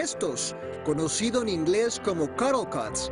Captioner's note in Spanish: habla en inglés